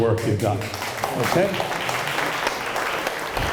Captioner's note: applause